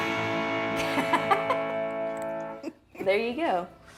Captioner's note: laughing